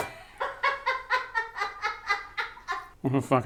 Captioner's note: laughing